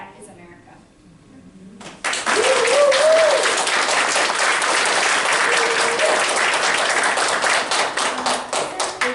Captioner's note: applause